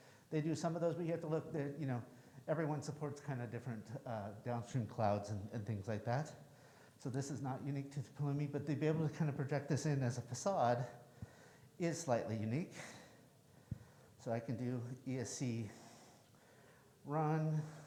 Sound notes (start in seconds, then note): none